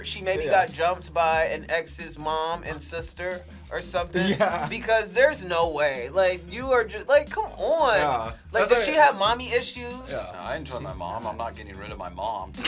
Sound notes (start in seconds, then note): 4.1 laughs